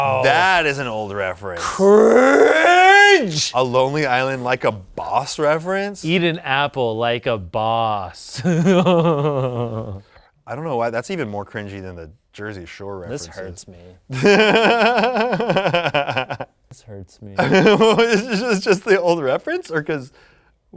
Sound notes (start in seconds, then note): 8.4 laughs; 14.1 laughs